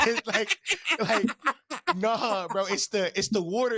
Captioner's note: laughing